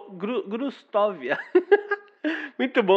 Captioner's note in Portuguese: Risos